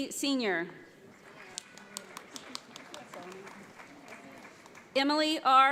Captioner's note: audience applauds